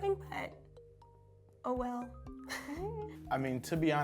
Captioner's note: laughs